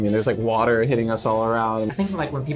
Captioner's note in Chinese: 啜泣